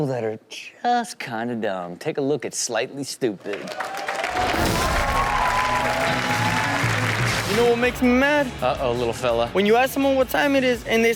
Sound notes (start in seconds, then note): 3.4 audience applauds and cheers